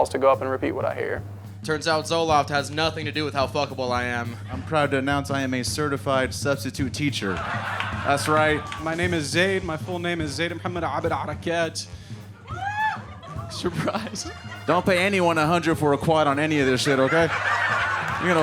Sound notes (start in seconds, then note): 7.2 audience laughing; 12.5 audience member cheering; 16.4 audience laughing